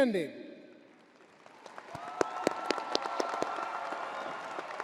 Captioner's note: crowd applauding